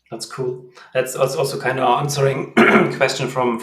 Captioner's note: clears throat